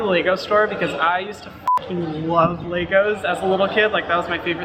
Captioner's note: beep